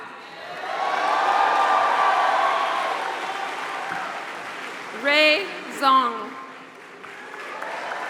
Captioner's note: applause